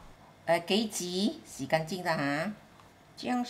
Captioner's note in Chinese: 廣東話